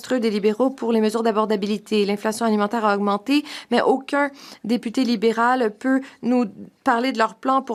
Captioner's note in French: voix de l'interprète